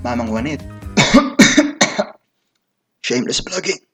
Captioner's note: cough